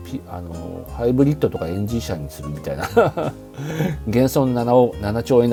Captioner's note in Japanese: 笑い